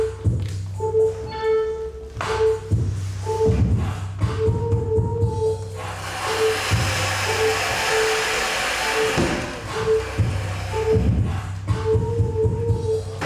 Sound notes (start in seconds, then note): 6.0 object whirring; 9.8 soft dramatic music